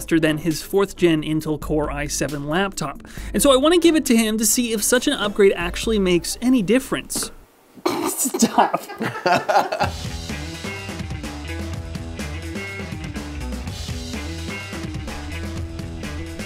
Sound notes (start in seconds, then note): 7.8 laughs; 9.2 upbeat music